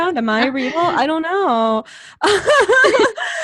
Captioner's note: laughs